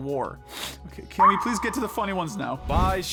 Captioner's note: sniff